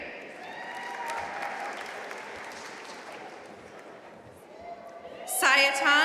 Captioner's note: audience cheering and applauding